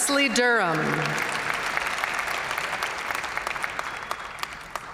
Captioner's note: audience cheering and applauding